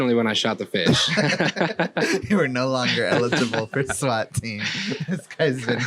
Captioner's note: laughing; laughs